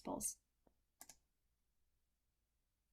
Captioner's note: click